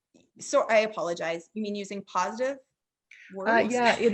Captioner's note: chuckling